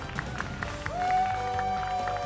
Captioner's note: applause